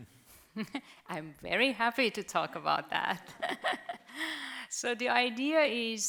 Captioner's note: chuckles